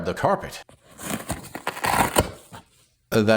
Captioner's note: velcro Ripping